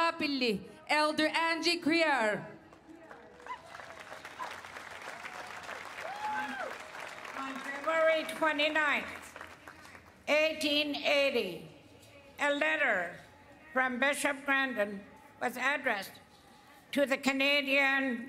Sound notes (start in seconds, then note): 4.4 speaking Indigenous Language; 7.0 cheers and Applause; 12.8 speaking Indigenous Language